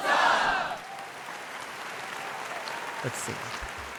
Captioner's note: audience applauds